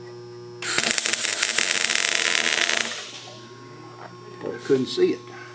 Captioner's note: welding machine sizzling